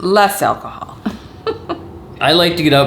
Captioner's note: laughing